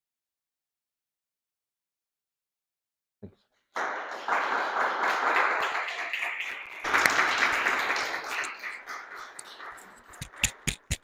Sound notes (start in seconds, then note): 3.7 audience applause